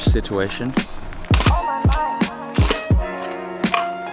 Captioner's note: photo click